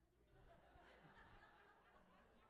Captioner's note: audience laughs